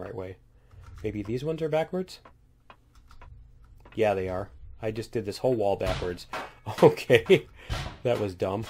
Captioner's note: laughs